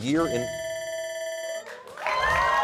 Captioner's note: bell rings